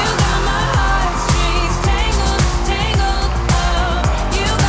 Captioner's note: cheering